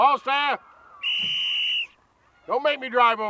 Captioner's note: whistle blows